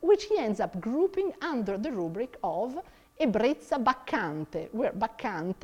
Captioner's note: speaks in foreign language